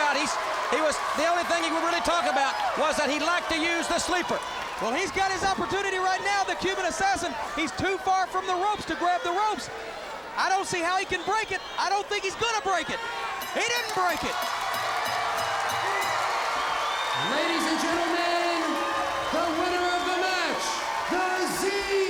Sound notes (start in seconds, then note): 4.7 crowd cheering; 13.4 bell ringing; 13.4 crowd chatter; 16.0 crowd cheering